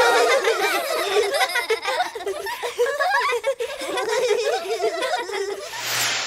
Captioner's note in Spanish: Risas